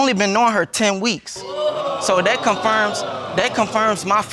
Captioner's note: audience exclaiming